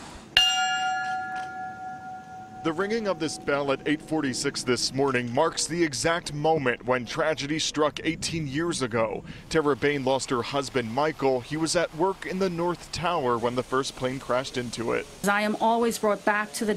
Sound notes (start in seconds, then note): 4.9 bell rings